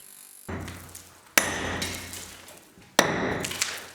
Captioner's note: clanking